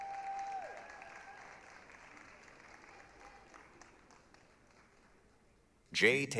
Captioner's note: applause, cheering